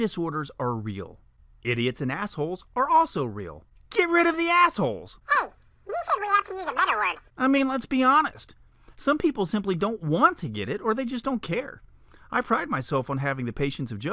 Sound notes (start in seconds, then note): 7.6 man's voice